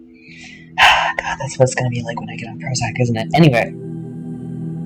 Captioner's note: sigh